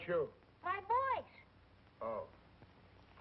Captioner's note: talking louder